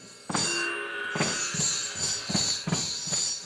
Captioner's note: gong chiming